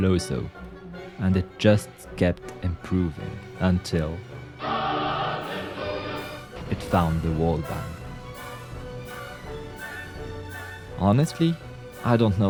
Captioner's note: hallelujah worms sound effect